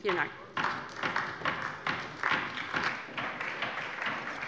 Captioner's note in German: Beifall bei der LINKEN und der SPD